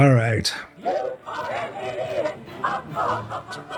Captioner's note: laughs